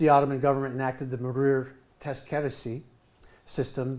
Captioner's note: speaking in foreign language